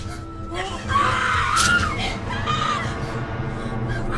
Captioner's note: screaming